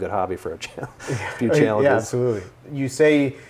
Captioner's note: laughs